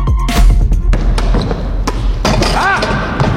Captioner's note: ball bouncing; dunk sound